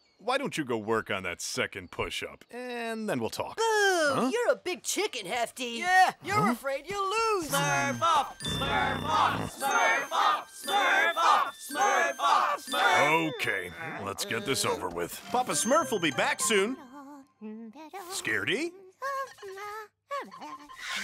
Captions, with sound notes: why don't you go work on that second push up? And then we'll talk. Boo. You're a big chicken, Hefty. Yeah, you're afraid you'll lose. Smurf-off! Smurf-off! Smurf-off! Smurf-off! Smurf-off! Smurf-- Okay, let's get this over with. Papa Smurf will be back soon. [humming] Scaredy? [humming]